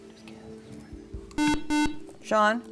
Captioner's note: buzzer